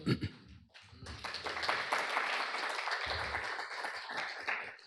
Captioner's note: applause